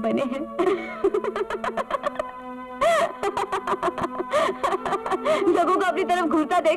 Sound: laughs

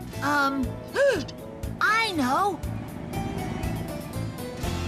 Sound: gasps

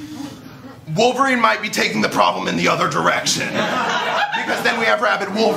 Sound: laughter

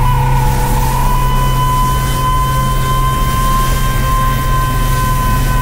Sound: sustained high-pitched tone

